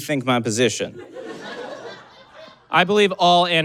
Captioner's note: audience laughs